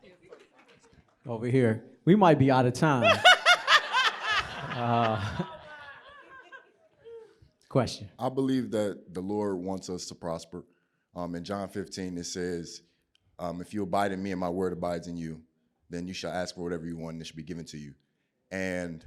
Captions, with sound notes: >> Over here, we might be out of time. [LAUGHTER] Question. >> I believe that the Lord wants us to prosper. John 15, it says, if you abide in me and my word abides in you, then you shall ask for whatever you want that should be given to you.